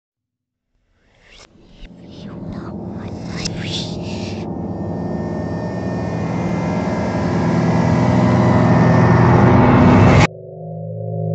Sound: reversed sounds

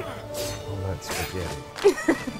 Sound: laughs

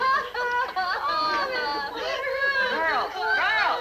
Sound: women laughing; crowd laughing

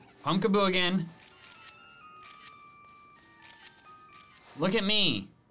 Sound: photo snapping

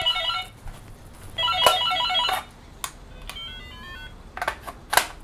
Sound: door ringing

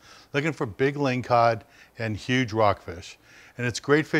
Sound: none

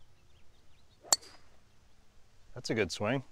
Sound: ping!

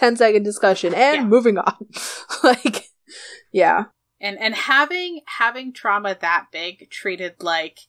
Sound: laughs

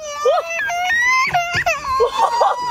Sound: crying

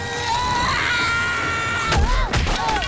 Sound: screams

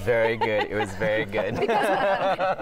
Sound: laughter

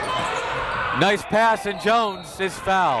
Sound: whistle

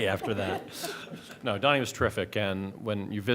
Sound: laughter

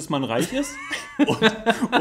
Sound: laughs

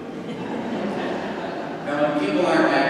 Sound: crowd laughing

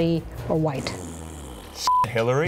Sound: fart noise

